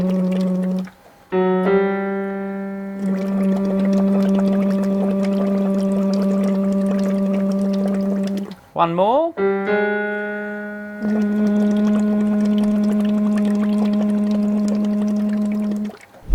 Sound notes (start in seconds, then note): 0.0 blowing bubbles; 0.0 humming at a higher pitch; 1.3 hits two higher piano keys consecutively; 3.1 blowing bubbles; 3.1 humming at a higher pitch; 9.3 hits two higher piano keys consecutively; 10.7 blowing bubbles; 11.1 humming at a higher pitch